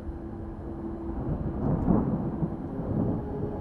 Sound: thunder rumbles

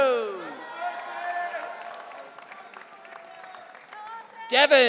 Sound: audience cheering

